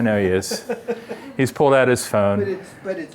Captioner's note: laughter